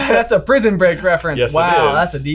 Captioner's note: chuckles